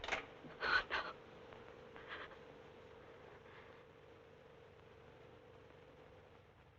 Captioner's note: door rattling